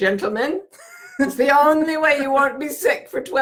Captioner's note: laughing